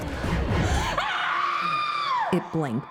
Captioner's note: Anne screams